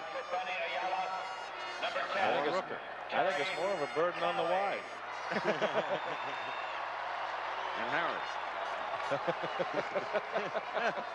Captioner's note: laughter